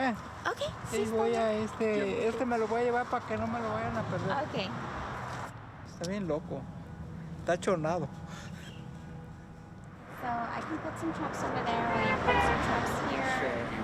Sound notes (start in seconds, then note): 0.2 speaking in Spanish; 5.6 speaking in Spanish